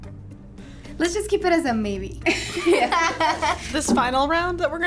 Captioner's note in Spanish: ambas se ríen